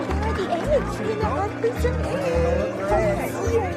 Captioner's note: applause; excitement chattering